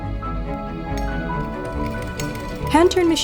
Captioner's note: wheel clicking